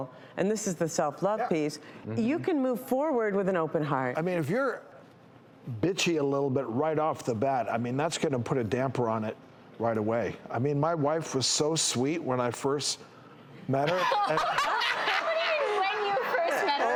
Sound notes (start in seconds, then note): 13.8 audience laughs